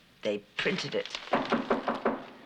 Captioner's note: knocking